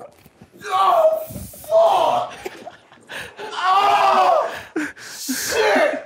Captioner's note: group laughing